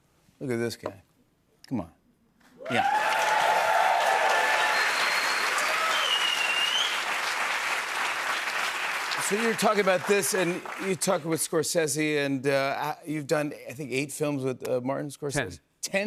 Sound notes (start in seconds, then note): 3.1 cheers and applause